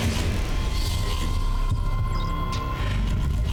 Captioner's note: machine whirs